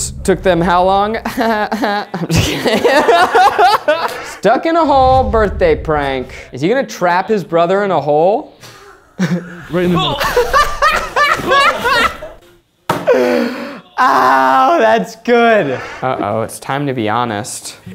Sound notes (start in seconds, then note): 3.0 laughing; 11.2 laughing